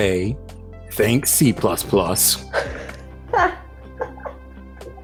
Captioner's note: laughs